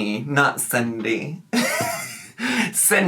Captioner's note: laughing